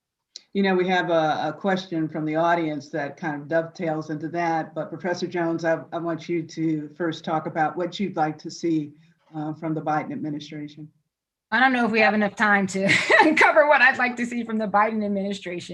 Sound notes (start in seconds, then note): 12.8 chuckling